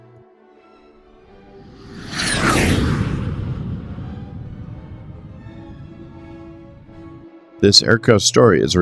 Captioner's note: jet Whoosh